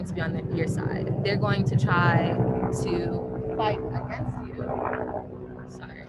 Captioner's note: airplane engine roaring